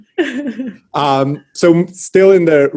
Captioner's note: laughs